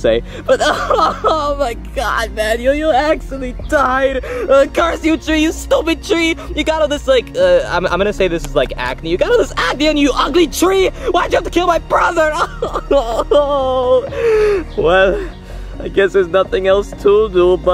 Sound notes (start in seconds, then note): 14.0 sobbing